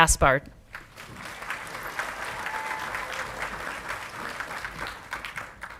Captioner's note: audience clapping and cheering